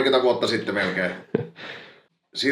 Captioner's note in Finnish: naurahtaa; niiskauttaa